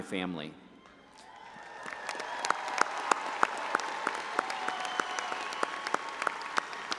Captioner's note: all applauding and audience cheering